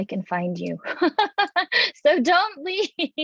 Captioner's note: laughing